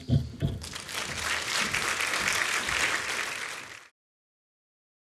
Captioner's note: applause